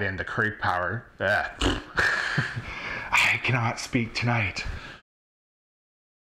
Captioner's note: blows raspberries